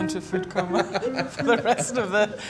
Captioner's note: general laughter